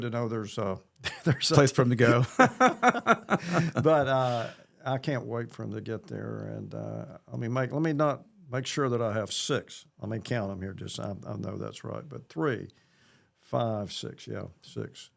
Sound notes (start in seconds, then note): 3.7 both Laughing